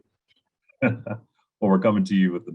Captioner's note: laughs